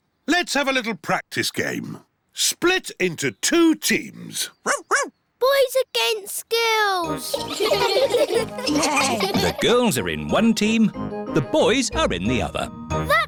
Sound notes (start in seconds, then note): 4.7 barks; 7.2 all giggling